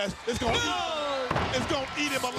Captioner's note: Mike and Tony exclaim